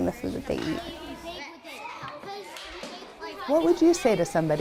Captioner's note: kids murmuring